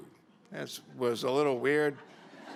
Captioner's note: laughter